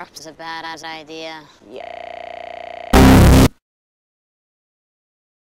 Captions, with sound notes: was a Bada*$ idea yaaaaaaaaaaaaaaaaaaaaaa [LOUD BSOD]